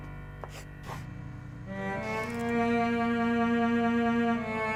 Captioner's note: melodramatic music; pencil scratches